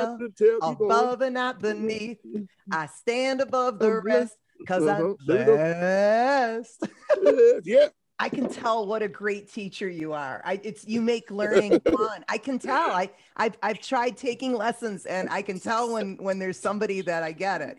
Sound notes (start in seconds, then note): 6.8 chuckles; 10.2 stutters; 11.5 laughter